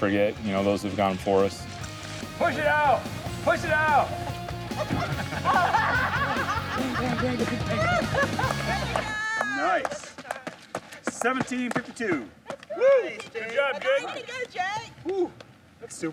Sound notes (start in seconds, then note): 4.0 laughing